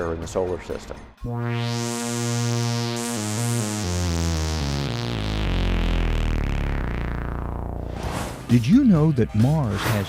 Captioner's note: sound Effects